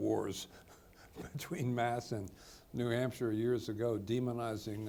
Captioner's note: chuckles